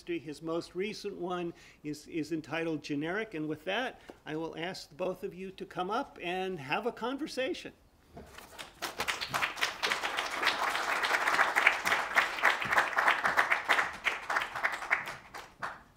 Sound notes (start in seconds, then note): 8.4 applause